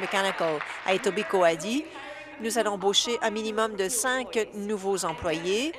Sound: applause

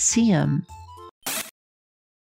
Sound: zap

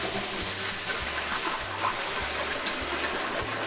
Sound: water Pouring Sounds

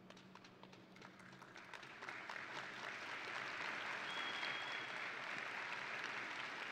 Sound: audience and graduates applauding

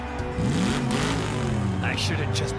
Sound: revving

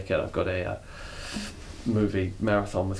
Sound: sucks air through teeth

